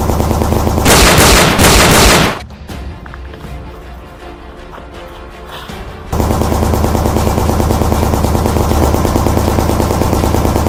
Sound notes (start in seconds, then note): 0.8 handgun shots banging; 6.1 rifle shots banging